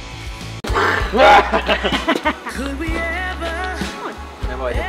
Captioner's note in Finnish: evil laughter